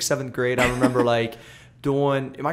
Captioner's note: laughter